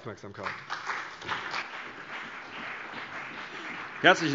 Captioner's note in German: Beifall CDU und BÜNDNIS 90/DIE GRÜNEN